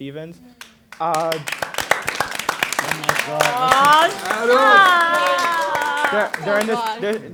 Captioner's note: applause